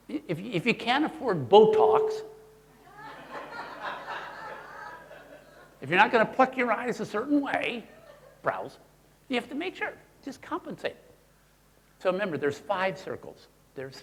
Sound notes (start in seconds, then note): 2.9 audience laughing